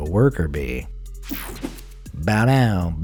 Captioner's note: air whooshing